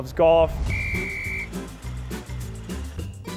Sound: whistle; happy music

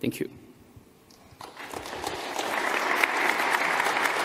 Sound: applause

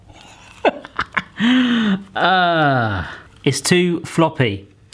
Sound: laughing

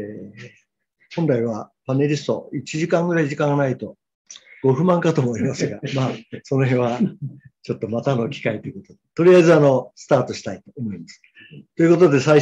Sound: laughter; laughs

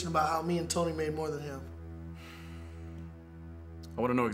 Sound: sighs

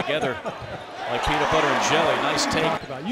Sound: crowd cheering

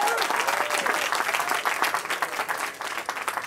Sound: cheering

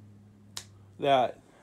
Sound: thanos snap

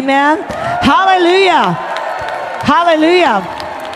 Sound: congregation cheers

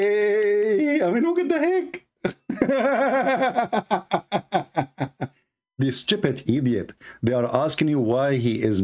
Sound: Ketawa

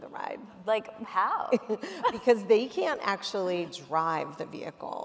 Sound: laughs

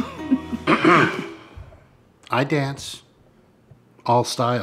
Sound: Samantha and Jake chuckle; clears throat

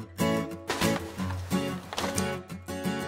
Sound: cheerful music; soft thudding; cheerful music

